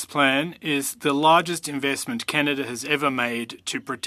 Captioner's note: speaking French